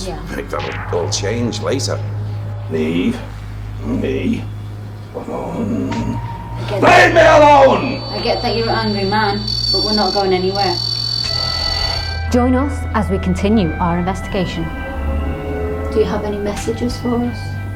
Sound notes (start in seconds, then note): 11.0 intense beeping; 11.6 creepy Voice